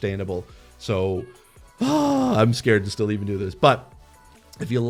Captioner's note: shouting in distress